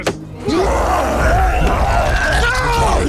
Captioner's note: cyclops roaring